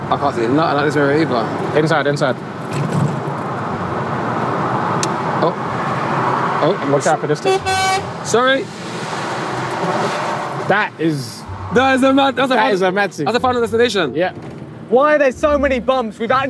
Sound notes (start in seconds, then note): 7.4 truck horn honking